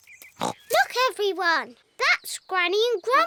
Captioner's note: oinks